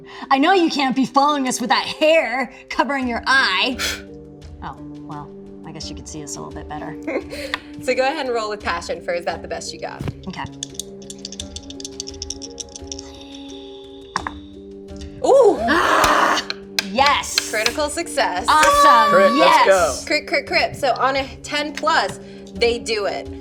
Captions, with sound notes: I know you can't be following us with that hair covering your eye. Well, I guess you could see us a little bit better. So go ahead and roll with passion -for Is that the best you got? -Okay. -Oh! -Ah, yes! Critical success! [cheering] Crit, crit crit, so, on a ten plus they do it.